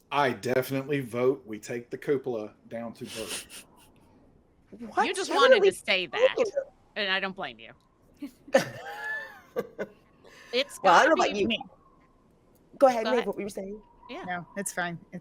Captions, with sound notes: - I definitely vote, we take the cupola down to... (person chuckling) - You just wanted to say that and I don't blame you. (people laughing) - Well, I dunno, you... - It's... - Go ahead, Meave, what you were saying? - Yeah, no it's fine.